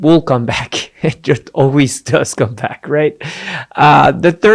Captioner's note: giggling